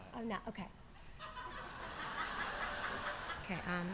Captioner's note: laughter